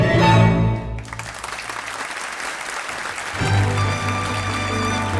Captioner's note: audience applauding